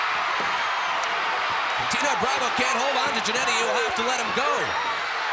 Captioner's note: applause